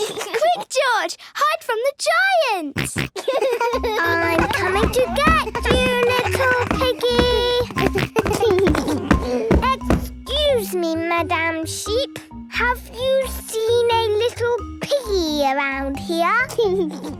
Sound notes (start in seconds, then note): 2.8 giggles, snorts; 7.5 giggles